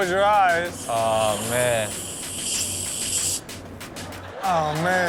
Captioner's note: cream sprays